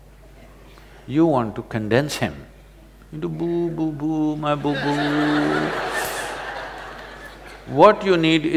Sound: laughter

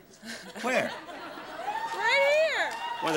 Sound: audience laughing

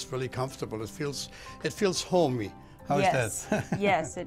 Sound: laughs

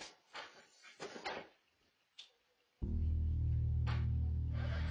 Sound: lights clicking

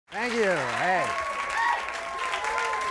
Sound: audience applauding

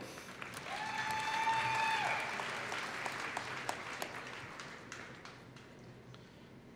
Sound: applause

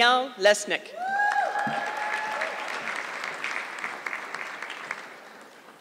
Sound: audience clapping

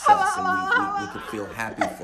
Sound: laughs

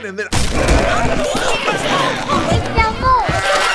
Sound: wolf growling; sheep bleating

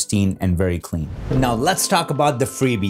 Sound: whoosh sound

